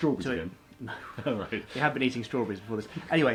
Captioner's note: laughs